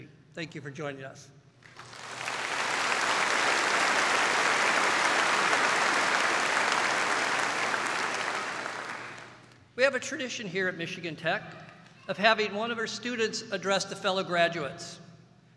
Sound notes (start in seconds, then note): 1.6 applauding